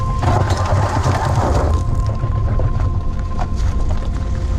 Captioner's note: sound of tires losing traction on loose gravel